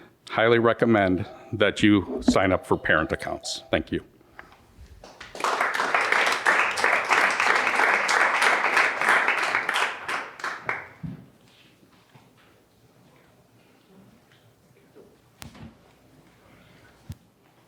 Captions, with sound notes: Highly recommend that you sign up for parent accounts. Thank you. [Applause]